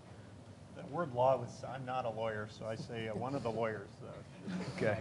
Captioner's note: laughter